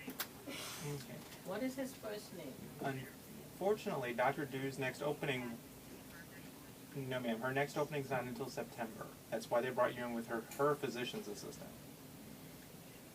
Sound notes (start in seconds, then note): 0.9 background office noise